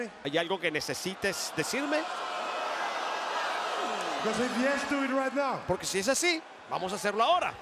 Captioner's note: applause; applause